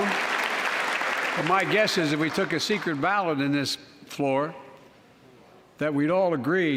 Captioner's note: applause